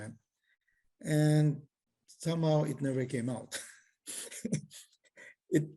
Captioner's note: laughs